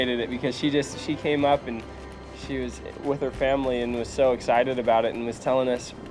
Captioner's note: none